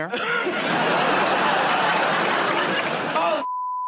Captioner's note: laughter and applause